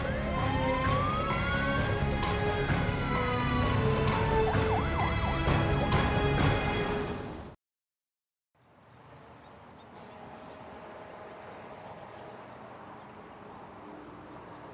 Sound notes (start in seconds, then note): 0.0 siren wailing; 0.0 dramatic music